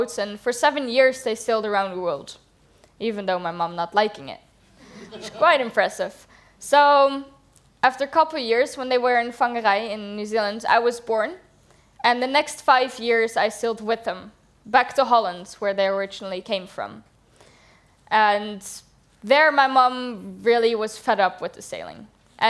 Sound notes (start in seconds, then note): 4.8 laughter